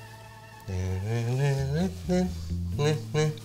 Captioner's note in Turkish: Şarkı mırıldanıyor